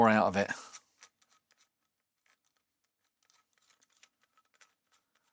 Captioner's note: plastic Crinkling